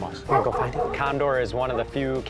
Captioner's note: dog barking